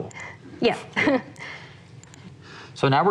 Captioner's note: laughs